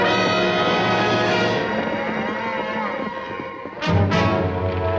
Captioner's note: cattle lowing